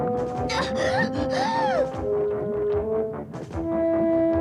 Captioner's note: gasping